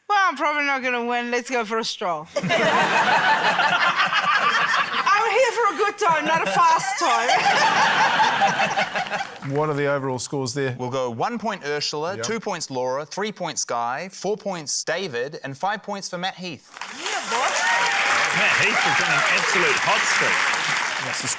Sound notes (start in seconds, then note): 2.3 laughter; 8.6 laughter; 16.7 cheering, applause